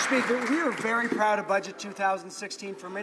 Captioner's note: some Applause